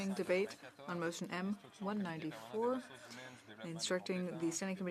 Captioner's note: speaking in french